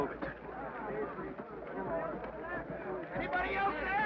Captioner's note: men chatter